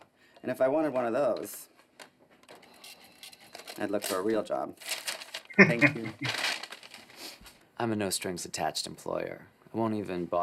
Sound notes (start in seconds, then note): 5.4 chuckling